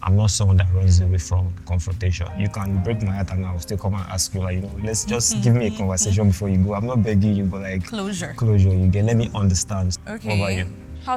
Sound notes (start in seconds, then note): 5.1 laughs